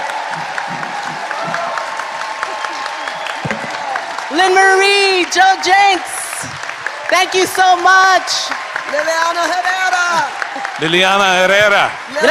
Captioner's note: applause